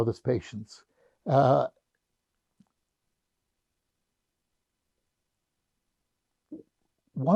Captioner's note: pauses 6 seconds